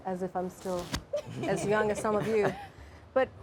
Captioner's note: audience laughs